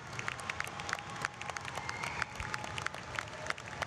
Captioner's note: cheers